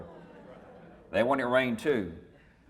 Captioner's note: audience mumbles